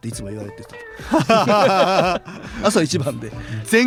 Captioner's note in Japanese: 笑い